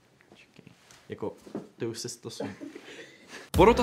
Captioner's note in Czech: smích